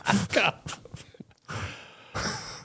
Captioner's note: laughs